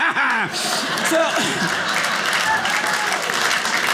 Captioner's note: maniacal laughing; audience laughing; audience applauding